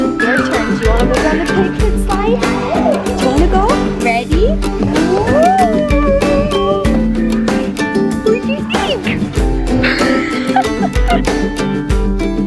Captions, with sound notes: Your turn. Do you want to play on the big kid slide? Do you want to go? Ready? Woooo! What'd you think? (laughing)